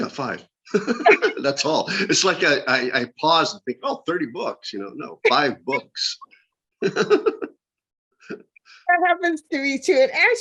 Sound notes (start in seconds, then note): 6.8 laughter